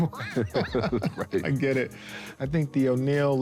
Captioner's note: laughs